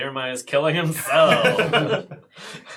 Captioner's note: all laugh